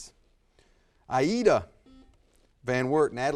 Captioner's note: buzzer buzzes